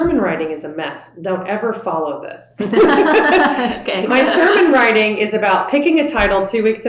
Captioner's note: laughter